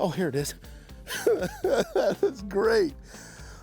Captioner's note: chuckling